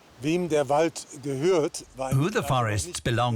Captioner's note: speaking German